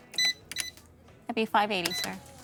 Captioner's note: cash register beeping